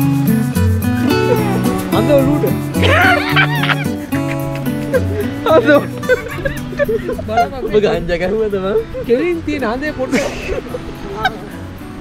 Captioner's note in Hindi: हंसते हुए